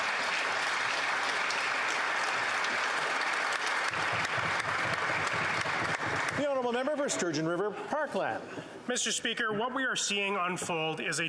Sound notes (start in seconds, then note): 3.1 applause